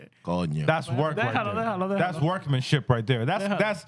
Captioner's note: speaking Foreign Language